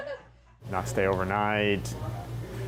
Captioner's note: all chuckle